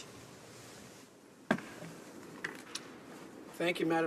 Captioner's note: speaking french